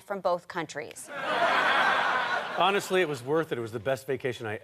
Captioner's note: audience laughter